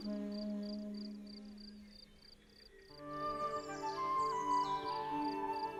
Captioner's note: odgłos świerszcza, spokojna muzyka